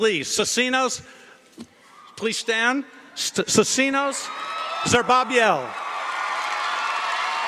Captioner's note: cheering & Applause